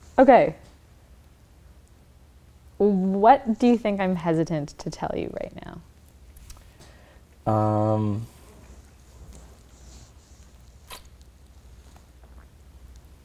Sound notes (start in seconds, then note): none